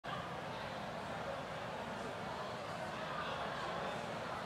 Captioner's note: crowd chattering faintly